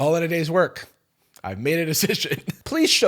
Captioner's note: laughs